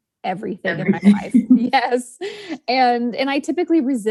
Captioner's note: laughs